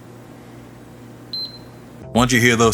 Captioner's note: PS5 beeps